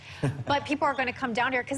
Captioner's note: chuckling